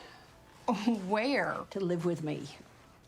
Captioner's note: scoffs